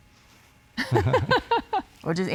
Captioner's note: laughing